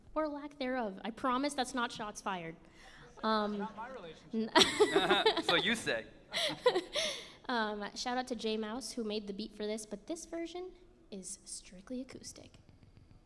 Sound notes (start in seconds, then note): 6.3 laughs